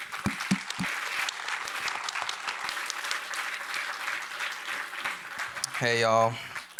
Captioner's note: applause